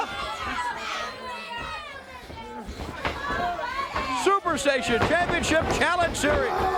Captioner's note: crowd chatter